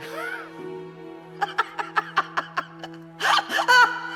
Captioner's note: Elisabeth laughing